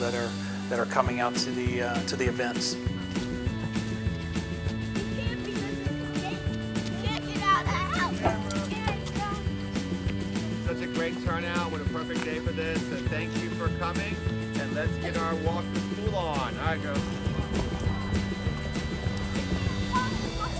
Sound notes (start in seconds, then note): 3.9 upbeat music; 6.4 children talking; 17.8 upbeat music